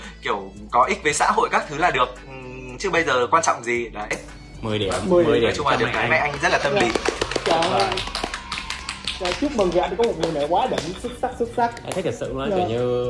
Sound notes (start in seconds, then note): 5.7 clap clap